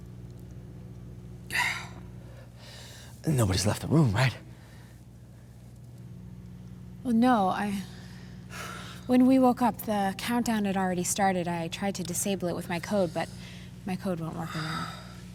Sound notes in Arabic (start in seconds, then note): 1.5 مالكولم يزفر بعمق